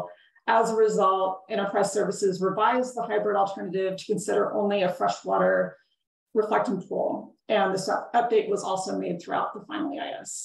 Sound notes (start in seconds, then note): none